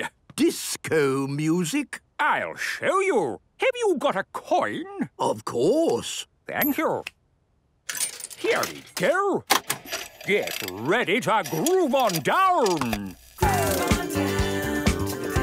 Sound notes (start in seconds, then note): 9.5 clicks, whirring; 13.4 disco music plays